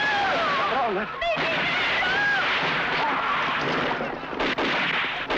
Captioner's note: speaks in Spanish; yelling in Spanish